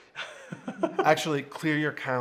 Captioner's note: chuckles